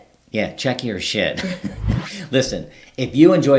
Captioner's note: both chuckling